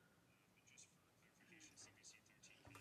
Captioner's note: speaking French